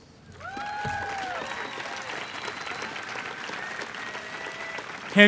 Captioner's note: applause